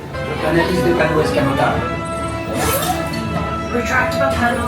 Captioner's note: F.R.I.D.A.Y. speaking French; mechanical whirring